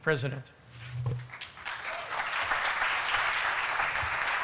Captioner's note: applause